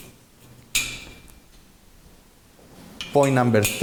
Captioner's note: metal clanks